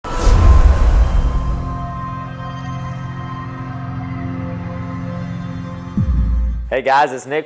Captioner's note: sound effect